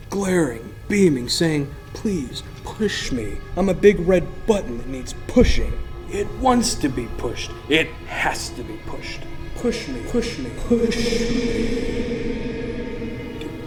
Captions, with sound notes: glaring, beaming, saying please, push me. I'm a big red button that needs pushing. It wants to be pushed, it has to be pushed. - [Disembodied Voice] Push me, push me, push me.